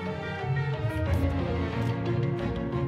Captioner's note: pencil scratching against a paper